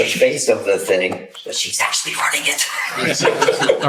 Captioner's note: whispers